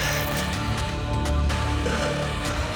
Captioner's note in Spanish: ruido al cortar